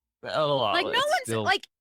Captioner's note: sound of disgust